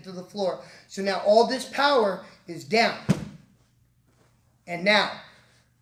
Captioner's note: thump